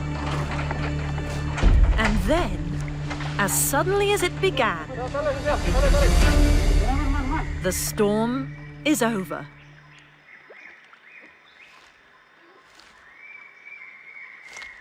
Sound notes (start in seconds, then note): 5.1 chatting; 5.1 intense music; 9.9 birds chirping